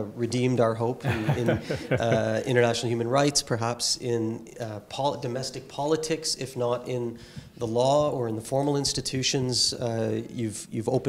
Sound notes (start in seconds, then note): 1.0 laugh